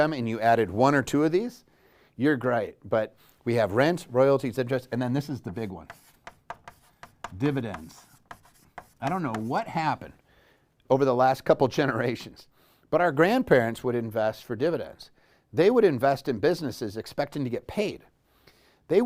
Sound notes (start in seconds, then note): 5.8 pen knocking